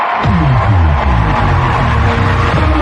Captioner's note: cheering and applause